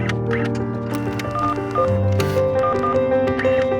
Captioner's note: keypad tones